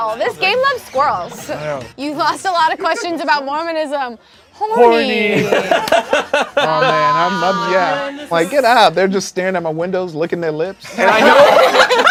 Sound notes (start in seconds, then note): 5.2 group laughs